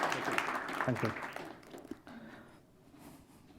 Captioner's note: applause